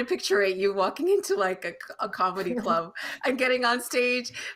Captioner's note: laughing